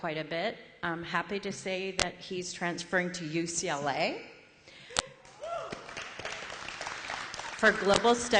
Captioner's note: applause